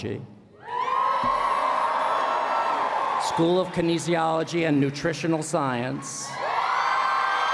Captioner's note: cheering; cheering